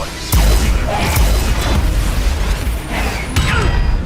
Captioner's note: beams shooting; grunts